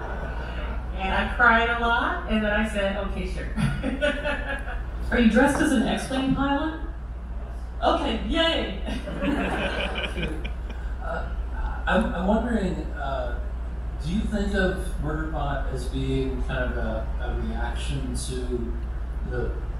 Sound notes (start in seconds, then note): 3.5 laughter; 8.9 crowd laughter